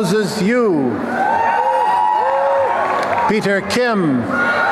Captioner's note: applause and cheering